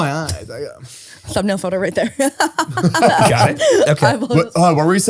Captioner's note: laughs